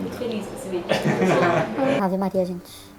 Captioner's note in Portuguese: Risadas